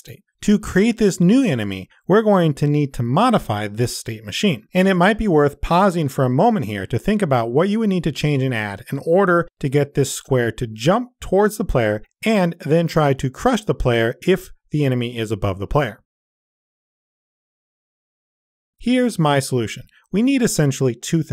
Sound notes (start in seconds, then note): 15.9 introspective silence